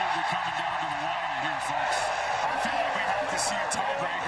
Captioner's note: cheering